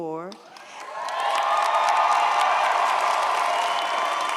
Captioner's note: audience cheers